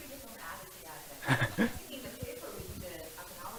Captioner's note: laughs